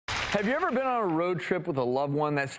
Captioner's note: applause